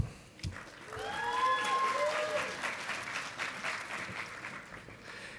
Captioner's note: audience applauding